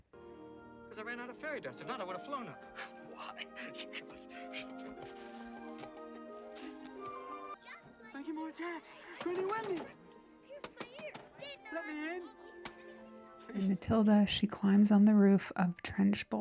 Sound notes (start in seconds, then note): 5.5 laughs